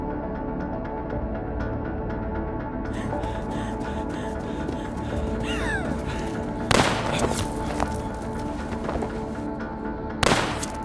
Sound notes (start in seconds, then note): 7.3 gun firing